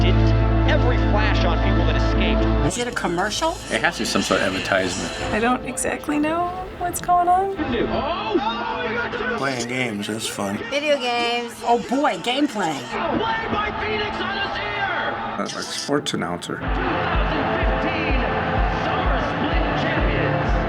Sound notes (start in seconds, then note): 7.6 commentators shouting